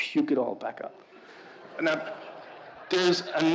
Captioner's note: audience laughing